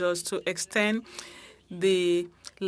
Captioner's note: speaking French